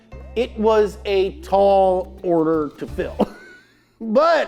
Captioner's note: laugh